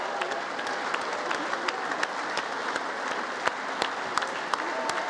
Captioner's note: congress applauding